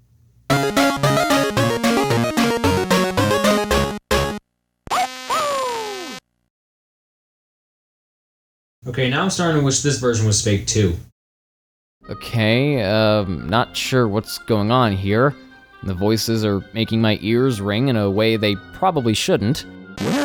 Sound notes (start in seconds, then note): 4.8 Blue barks while the GameBoy Color screeches in agony; 20.1 through a painful buzzing noise